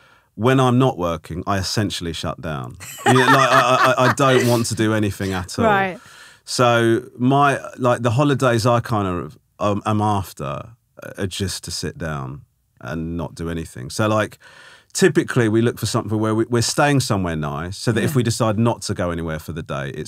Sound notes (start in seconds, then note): 2.8 laughing